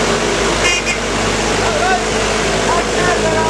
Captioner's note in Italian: Clacson